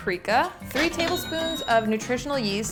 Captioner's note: cash register chimes